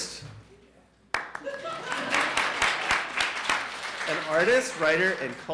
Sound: audience applauding

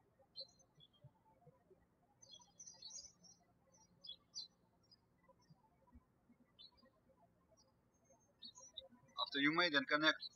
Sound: birds chirping

